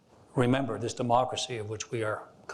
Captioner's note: none